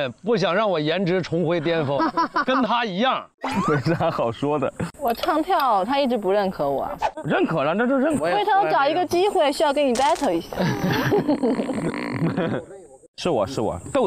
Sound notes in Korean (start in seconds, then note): 1.7 하하하하